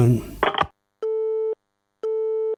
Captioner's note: phone clicks; phone beeping